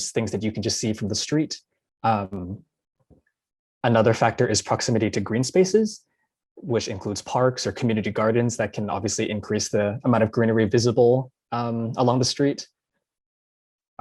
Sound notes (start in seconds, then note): none